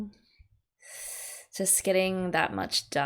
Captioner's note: sharp intake of breath